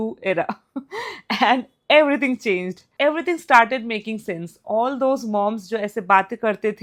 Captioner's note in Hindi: हंसी